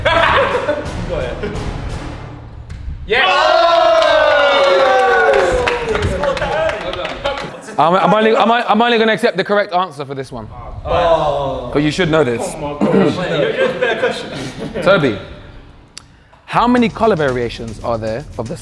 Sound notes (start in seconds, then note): 0.0 dramatic music plays; 3.3 group applauds; 5.0 Simon cheering